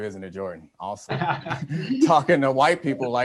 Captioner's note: laughs